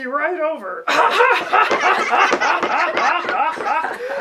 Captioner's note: laughter